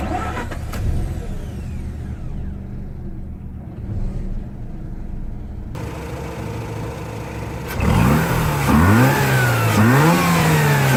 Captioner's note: engine Revving